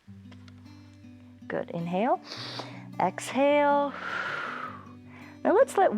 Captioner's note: exhales; inhales